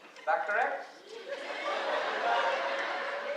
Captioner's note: laughter